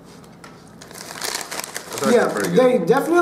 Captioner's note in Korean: 부스럭 부스럭